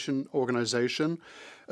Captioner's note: speaking French